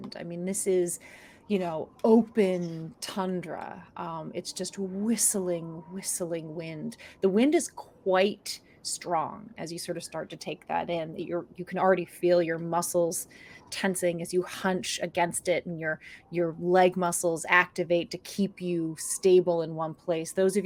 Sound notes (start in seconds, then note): none